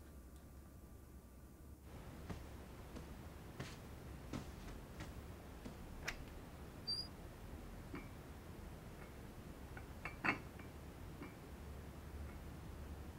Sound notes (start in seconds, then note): 6.5 cupboard creaks; 10.0 glass clinking